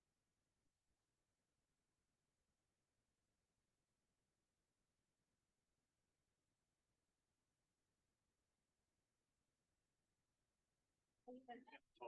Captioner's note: no audio-break